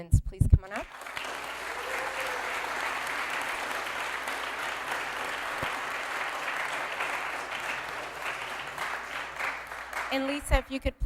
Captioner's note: applause